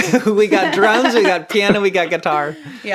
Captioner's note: laughs